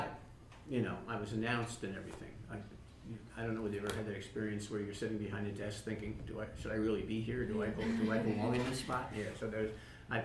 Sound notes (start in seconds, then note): 7.6 laughter